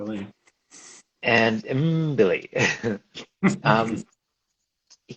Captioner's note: laughs